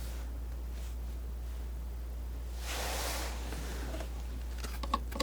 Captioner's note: scratching